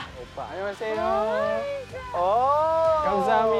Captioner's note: Korean